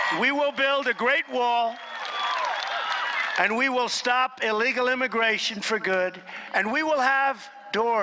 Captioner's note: applause